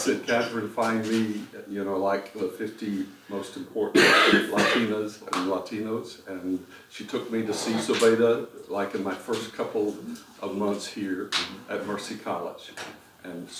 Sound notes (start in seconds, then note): 3.9 cough